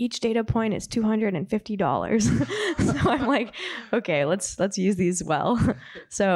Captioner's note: laughs